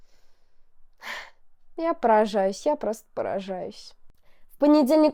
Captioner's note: sigh